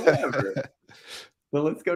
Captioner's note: laughing